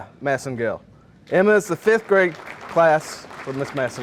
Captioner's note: audience applauding